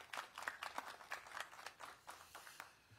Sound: applause

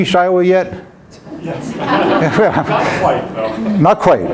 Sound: audience murmurs

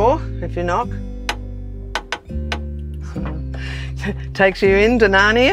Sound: knocker clacking

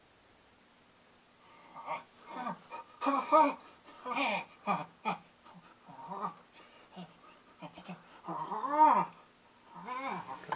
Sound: sniveling

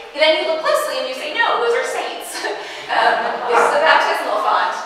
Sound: laughing

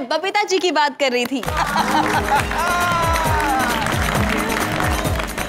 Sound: applauding; laughing

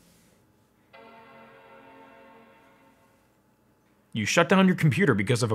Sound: computer chimes

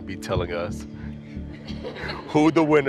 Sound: laughing

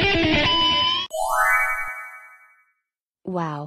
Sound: chimes

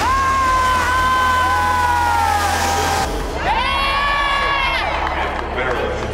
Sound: cheers and applause

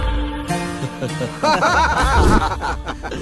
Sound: laughs

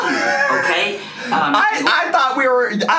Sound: laughs

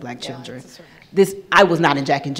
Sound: speaking off mic

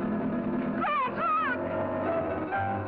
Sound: screaming; suspenseful music

